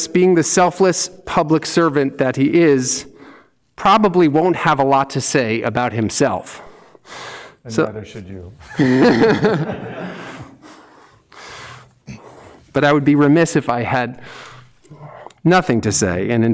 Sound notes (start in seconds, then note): 8.6 laughs; 8.7 audience laughs